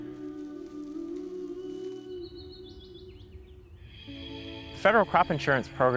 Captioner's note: birds chirping